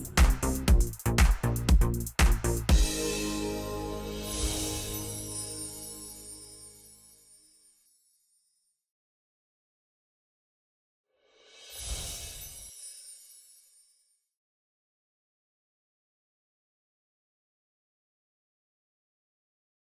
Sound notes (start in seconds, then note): 0.0 upbeat techno music; 4.5 metallic shimmering